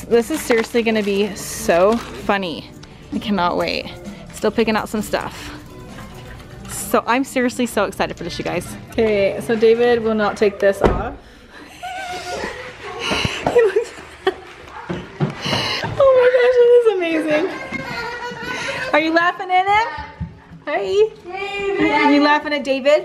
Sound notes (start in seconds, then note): 12.2 laughs; 17.7 kids laughing